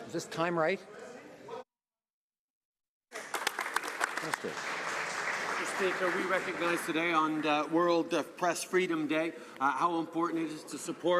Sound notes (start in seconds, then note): 7.2 some Applause